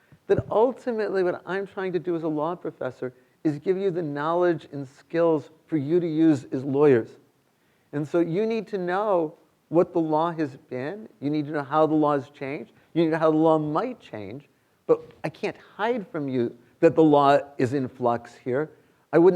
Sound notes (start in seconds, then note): none